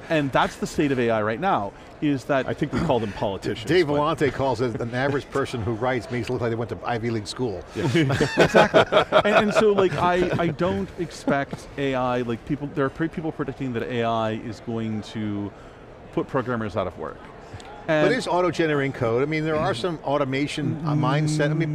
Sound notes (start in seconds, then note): 7.7 laughing